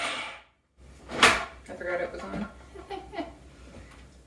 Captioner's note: laugh